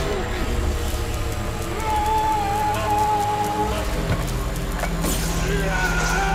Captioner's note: electricity crackling; Lucian screaming